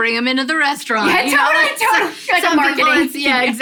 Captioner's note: laughter